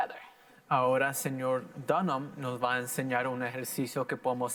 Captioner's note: in foreign language